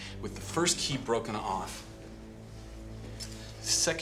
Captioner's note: none